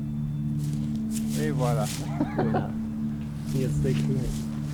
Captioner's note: laughs